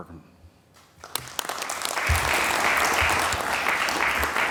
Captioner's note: applause